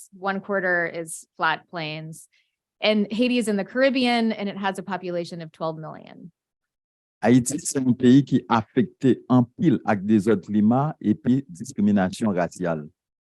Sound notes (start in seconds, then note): 7.5 speaking a foreign language